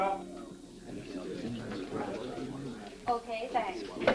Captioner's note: crowd chattering